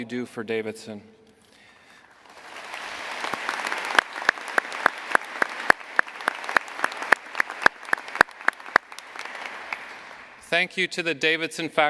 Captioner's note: applause